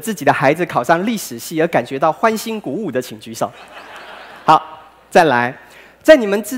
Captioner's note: laughter